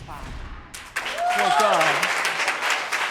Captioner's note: audience cheering